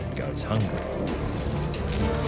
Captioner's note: lion growls